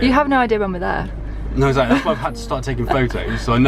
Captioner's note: laughing